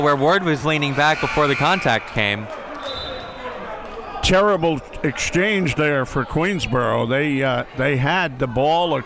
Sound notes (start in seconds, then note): 1.2 buzzer blares